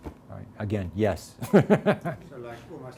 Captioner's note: laughs